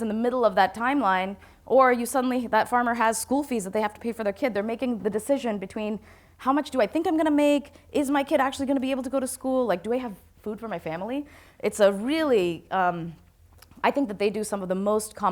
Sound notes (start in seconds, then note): none